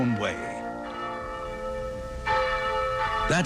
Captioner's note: bell rings